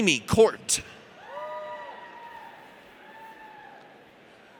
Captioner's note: audience cheers